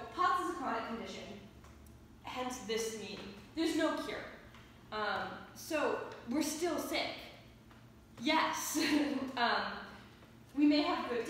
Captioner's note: giggle